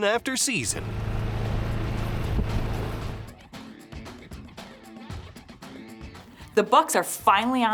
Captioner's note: engine hums; upbeat music